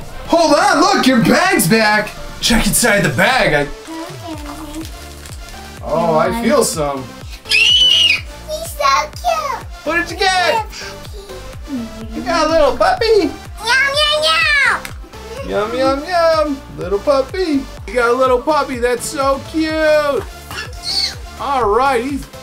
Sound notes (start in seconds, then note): 3.8 mumbling; 7.4 shrieks